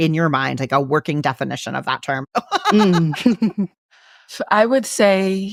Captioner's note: laughs